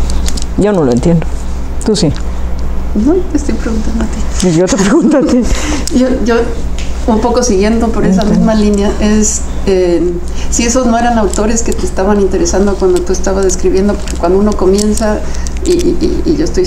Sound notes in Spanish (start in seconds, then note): 4.8 Se ríen